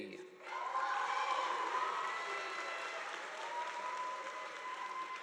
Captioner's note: audience applauding